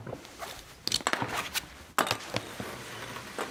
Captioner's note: unbuckling